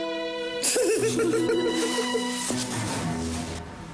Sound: both laughing

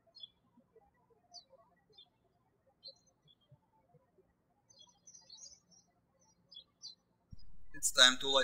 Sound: birds chirping

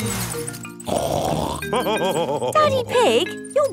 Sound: snorts and laughs

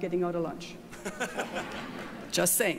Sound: all laughing

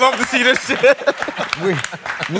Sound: laughing

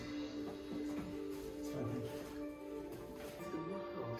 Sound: tv plays

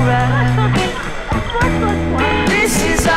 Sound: splashing

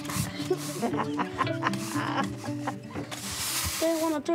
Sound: chuckles

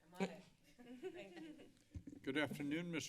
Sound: laughing

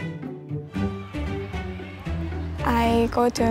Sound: sound of chatter

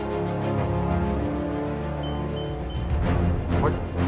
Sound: beeping

